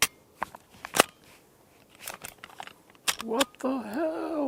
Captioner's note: trigger clicks; pulls slide back